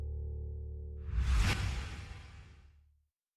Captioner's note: wosh